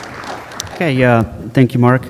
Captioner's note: applause